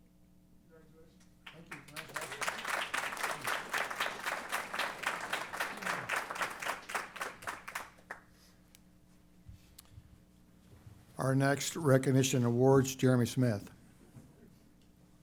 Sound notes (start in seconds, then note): 1.4 applause